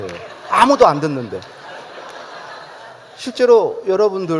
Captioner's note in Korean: 웃음